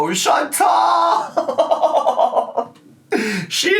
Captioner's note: laughs